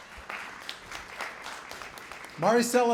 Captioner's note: applause